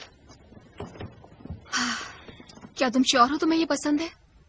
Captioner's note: sighs